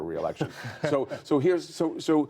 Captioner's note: laughter